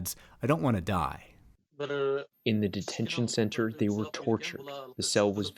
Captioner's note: through translator